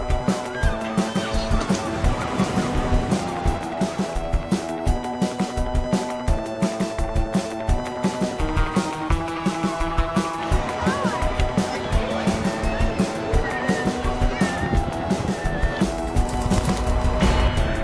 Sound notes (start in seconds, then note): 0.0 gulls squawking; 2.7 waves crashing; 14.8 gulls squawking